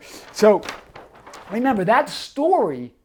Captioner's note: paper rustles